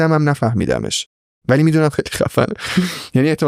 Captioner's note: laughs